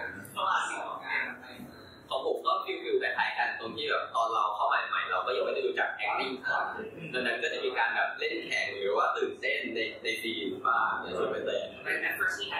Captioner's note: answering in Thai